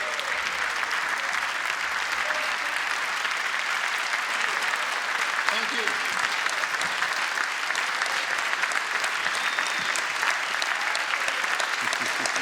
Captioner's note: applause